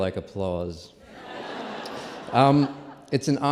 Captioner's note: laughter